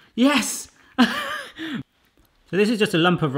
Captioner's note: laughs